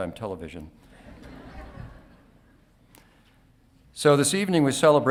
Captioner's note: audience laughing